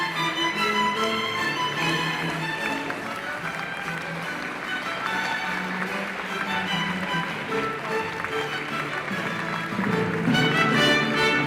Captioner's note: classical music; applause